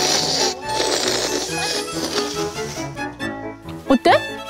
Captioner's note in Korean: 흡입